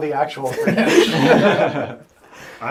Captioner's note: all laugh